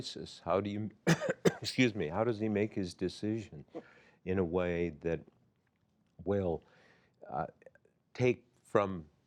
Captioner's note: coughs